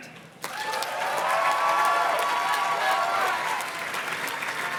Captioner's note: audience cheers and claps